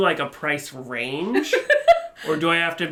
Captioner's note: chuckles